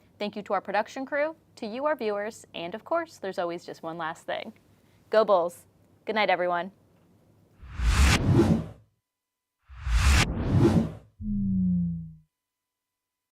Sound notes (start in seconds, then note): 7.7 air whooshing